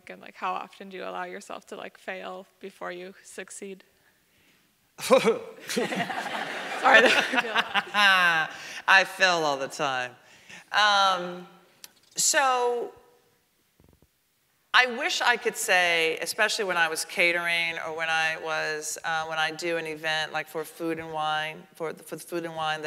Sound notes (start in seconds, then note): 5.6 laughs